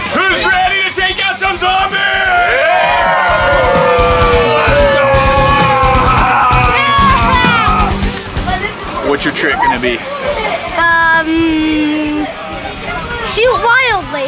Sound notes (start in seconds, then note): 3.8 rock music; 3.8 yelling